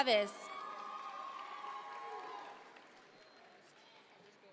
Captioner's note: audience members cheer